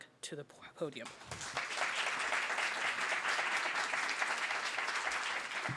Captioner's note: applause